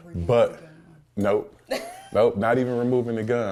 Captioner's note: laughs